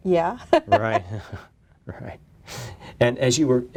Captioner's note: chuckles